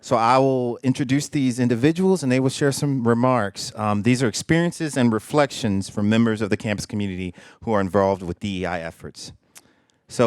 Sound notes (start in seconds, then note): none